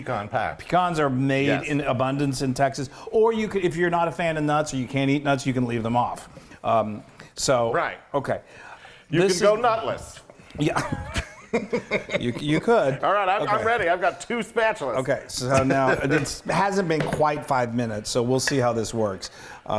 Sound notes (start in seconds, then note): 10.6 laugh